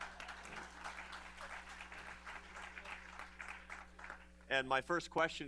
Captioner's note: laughter, applause